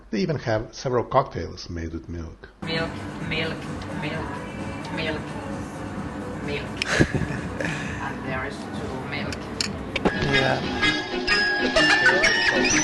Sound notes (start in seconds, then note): 6.7 laughs